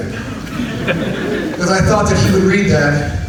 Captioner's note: audience laughs